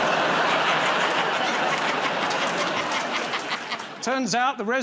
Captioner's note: laughter